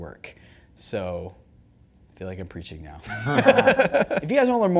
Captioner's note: laughing